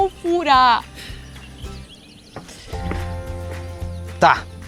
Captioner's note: birds